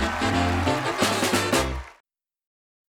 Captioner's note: cheers and applause